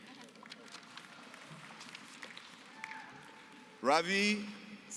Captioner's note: applause